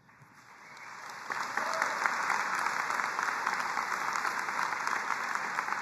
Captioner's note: crowd cheering and applauding